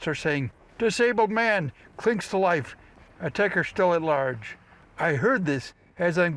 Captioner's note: in announcer voice